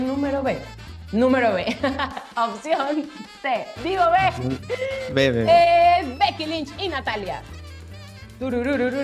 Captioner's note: laugh